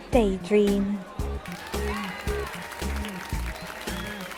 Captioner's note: cheering and applause